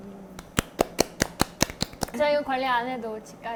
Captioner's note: applause